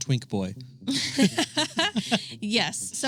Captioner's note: both laughing